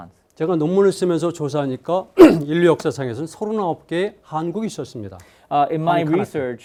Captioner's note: speaking in Korean